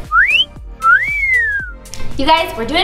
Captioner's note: whistles